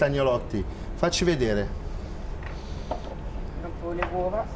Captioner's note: speaking Italian